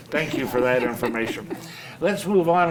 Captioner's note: laughs